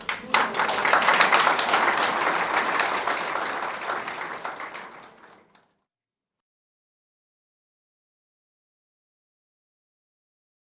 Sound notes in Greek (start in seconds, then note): 0.0 χειροκρότημα